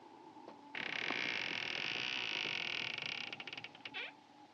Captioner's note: creaking